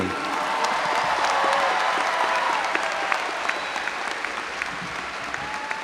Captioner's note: audience cheering and applauding